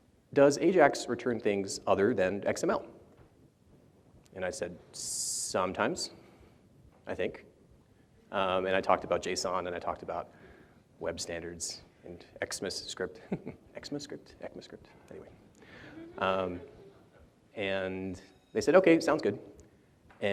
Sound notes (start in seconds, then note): 13.2 chuckles; 15.8 audience laughs